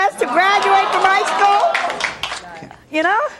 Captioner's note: audience hollering